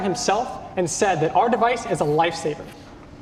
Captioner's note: none